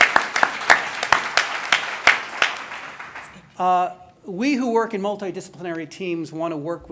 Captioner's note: applause